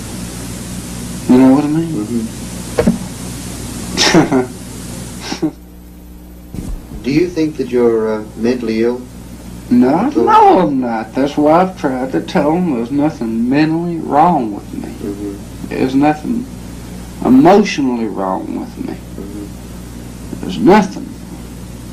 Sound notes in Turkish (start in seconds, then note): 3.6 gülüyor